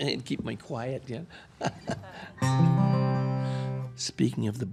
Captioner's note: chuckling